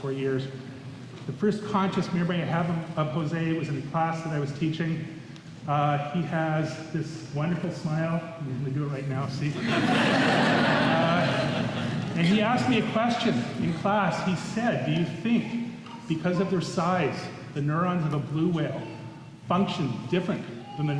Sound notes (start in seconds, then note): 9.5 laughter